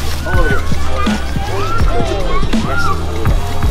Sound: crowd cheers

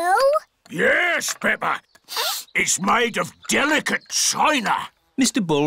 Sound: sniffs

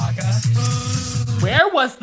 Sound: Chewbacca vocalizing

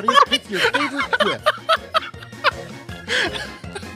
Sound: laughter

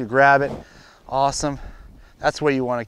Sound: air whooshing

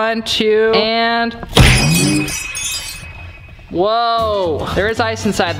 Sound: banging

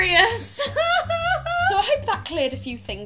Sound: laughing

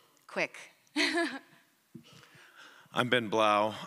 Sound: chuckles

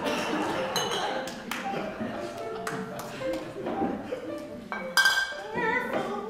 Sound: audience laughs

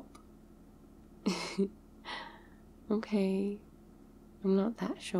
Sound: laughs

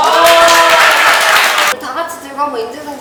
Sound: applause again

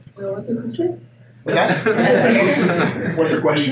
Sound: laughing

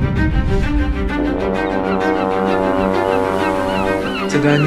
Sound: boat horn and seagulls

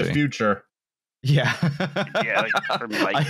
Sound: laughs

